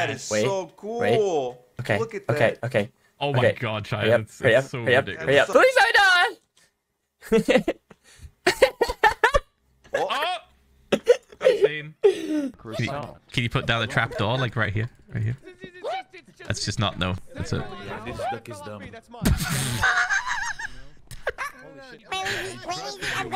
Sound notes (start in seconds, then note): 5.5 in Spanish; 7.8 Spanish; 8.4 laughs; 12.0 laughing; 19.2 laughs